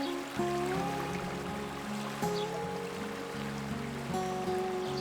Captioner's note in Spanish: rio fluiendo